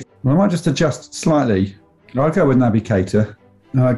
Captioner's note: none